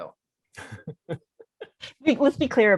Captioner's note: all laughing